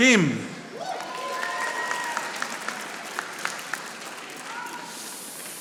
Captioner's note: audience applauding